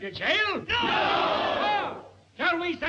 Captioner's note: crowd